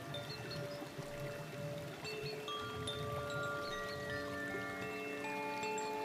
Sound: chimes tinkling; water running

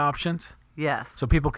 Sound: voiceover

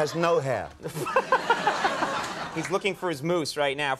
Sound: Conan laughs

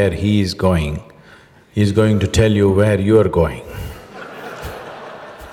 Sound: laughter

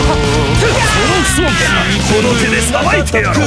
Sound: fatal scream

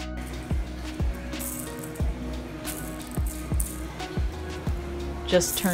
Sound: toy rattle noises

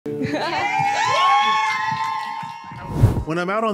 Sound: cheers and applause

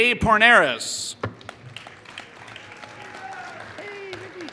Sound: applause

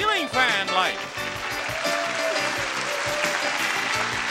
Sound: audience applauds

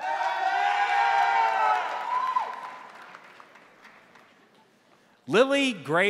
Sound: crowd cheering; crowd applauding

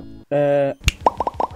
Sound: snap

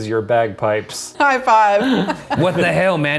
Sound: laughing

